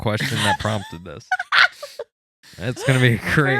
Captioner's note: laughing